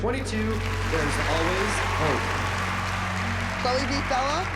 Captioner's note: cheering and applause